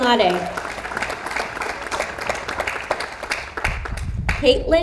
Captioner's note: audience applauds